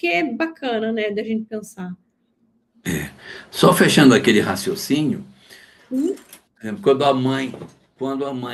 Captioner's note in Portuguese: limpando a garganta